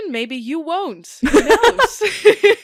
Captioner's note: both laugh; laughs